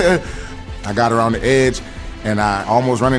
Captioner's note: laughs